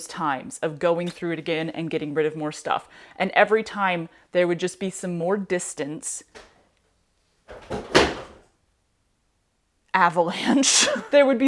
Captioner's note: clunk, thud